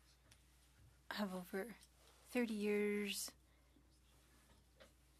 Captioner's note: speaking French